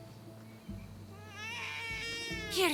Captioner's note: baby sounds